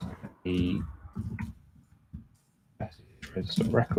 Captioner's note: mumbles